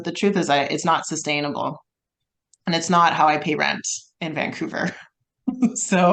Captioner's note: laughs